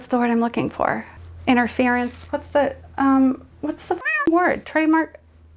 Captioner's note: cat meows